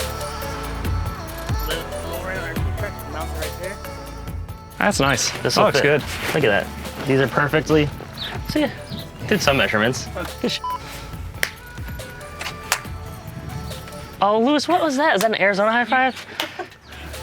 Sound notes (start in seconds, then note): 10.6 beep; 11.3 hands slapping